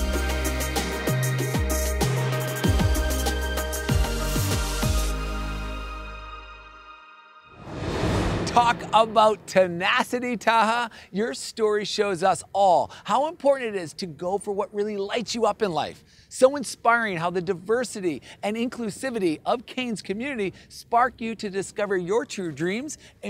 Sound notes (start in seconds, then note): 0.0 upbeat music; 7.5 air whooshing